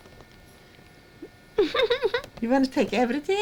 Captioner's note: laughs